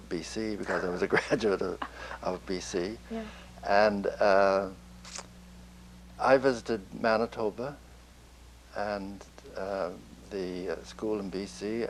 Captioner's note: laughs